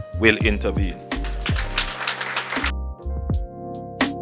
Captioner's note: applause